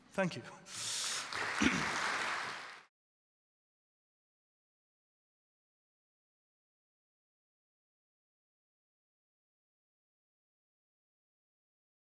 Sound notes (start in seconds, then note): 0.8 applause